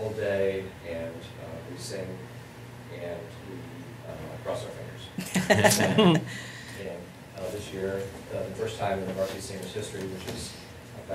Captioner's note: laughter